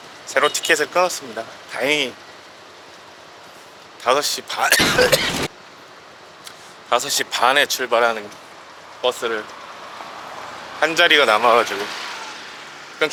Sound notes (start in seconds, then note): 4.6 cough cough!!